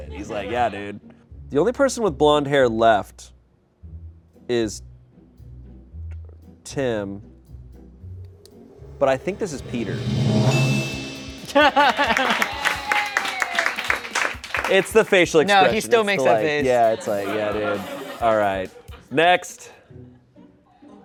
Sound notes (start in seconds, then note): 9.4 bell dings; 11.7 audience applauds